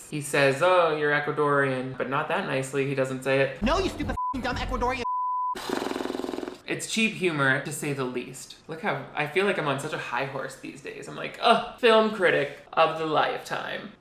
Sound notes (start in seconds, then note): 3.7 beep; 5.5 blows raspberry